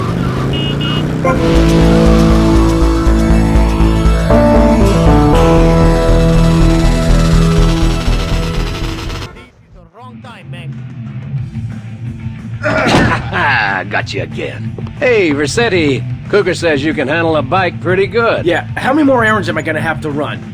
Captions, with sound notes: [Laughter] Got you again. Hey, Rossetti. Kooker says you can handle a bike pretty good. Yeah, how many more errands am I gonna have to run?